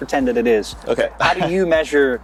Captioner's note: chuckling